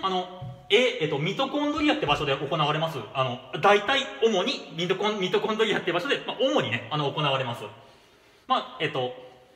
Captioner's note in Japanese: 呼吸